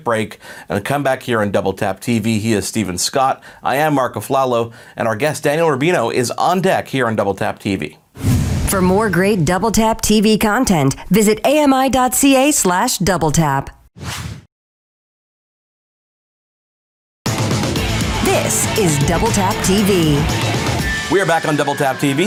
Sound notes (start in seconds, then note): 8.1 logo whooshing; 14.0 logo whooshing; 17.2 upbeat rock music